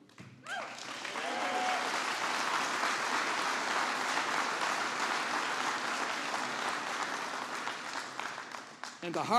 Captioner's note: applause